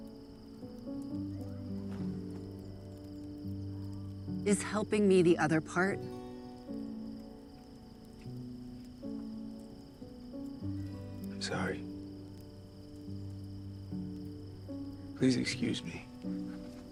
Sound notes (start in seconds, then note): none